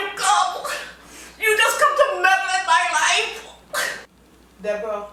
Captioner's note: crying; crying